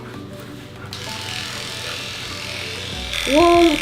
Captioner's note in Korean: 위이잉